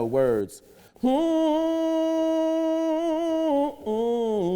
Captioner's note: humming